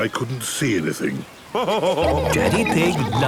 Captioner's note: laughing